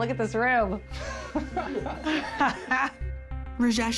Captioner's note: both laughing